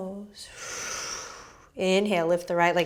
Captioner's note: exhaling